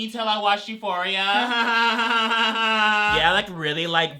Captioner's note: awkward laughing